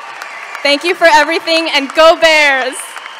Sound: cheering & applause

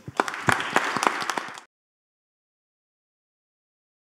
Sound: applause

